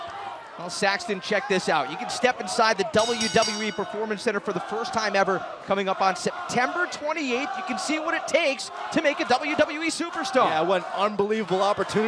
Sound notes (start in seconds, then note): 4.6 bell ringing